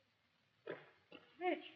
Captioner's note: footsteps